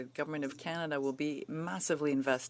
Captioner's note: speaking French